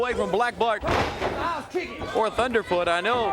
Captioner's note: crowd cheering